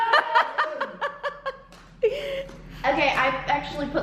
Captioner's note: laughing